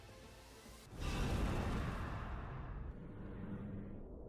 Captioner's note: whoosh